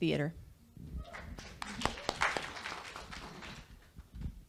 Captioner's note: audience Cheers